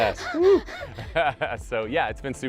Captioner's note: all laugh